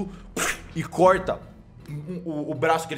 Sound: cutting sound

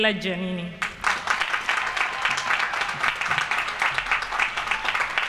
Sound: applause

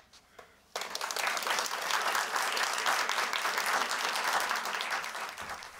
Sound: applause

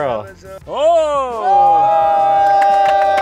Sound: cheering

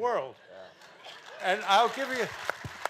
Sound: audience clapping

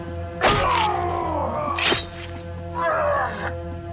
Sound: Frank grunts

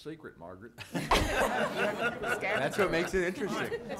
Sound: many laughing

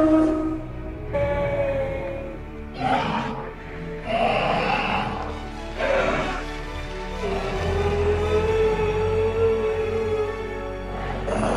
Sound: various dinosaur sounds

